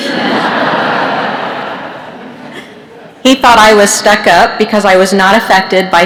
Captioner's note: laughter